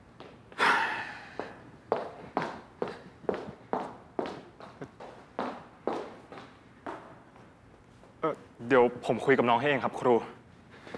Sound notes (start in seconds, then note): 0.4 sigh and footsteps